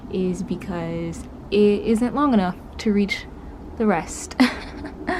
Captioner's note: laughs